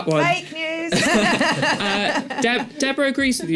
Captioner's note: laughter